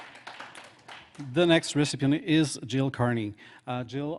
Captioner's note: applause